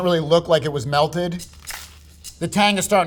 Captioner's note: percussion rattling; sandwich rustling